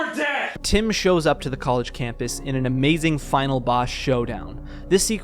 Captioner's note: stock thunder sound